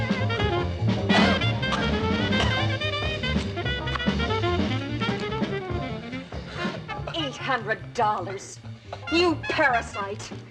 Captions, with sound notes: [ Coughing ] $800! You parasite!